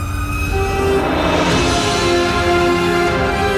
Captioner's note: sirens wailing; orchestra music